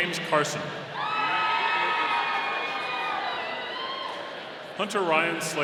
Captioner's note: audience cheering